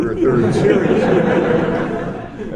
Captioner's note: laughter